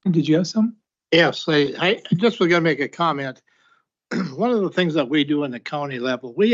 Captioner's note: clears throat